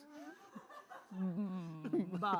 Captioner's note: laughter